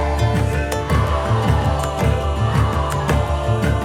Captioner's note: kids shouting